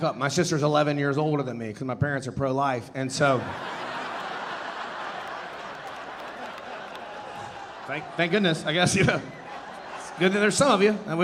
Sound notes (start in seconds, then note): 3.2 audience laughing